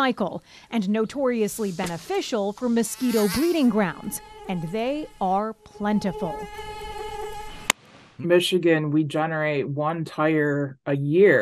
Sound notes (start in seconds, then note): 6.1 mosquitoes buzzing